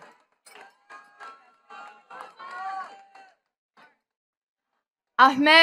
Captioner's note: attendees clapping